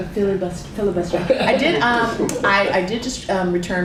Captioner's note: laughter